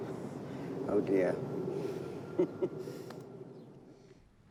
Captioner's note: chuckles